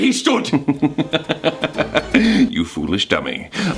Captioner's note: Deceit laughs